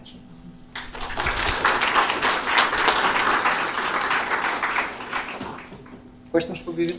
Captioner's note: applause